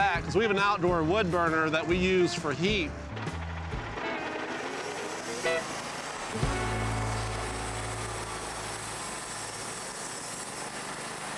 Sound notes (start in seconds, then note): 6.5 machine whirring